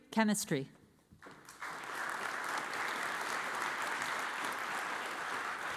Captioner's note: audience applauds